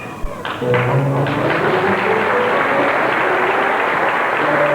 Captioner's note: applause